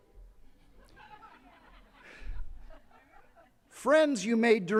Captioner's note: attendees laughing